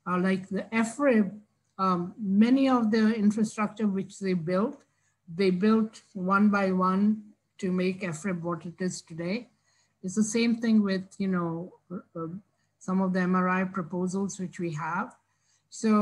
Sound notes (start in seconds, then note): none